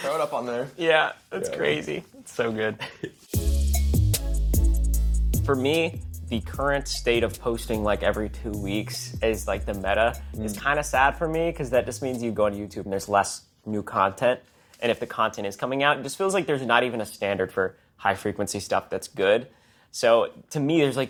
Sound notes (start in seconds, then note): 2.6 laughs; 4.2 hip hop music continues